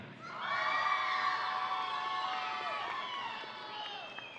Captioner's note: audience cheering